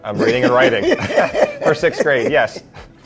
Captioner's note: laughs